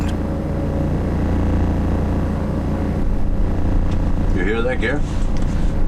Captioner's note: plane buzzing